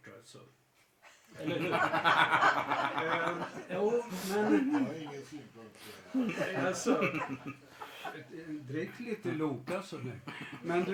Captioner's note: laughter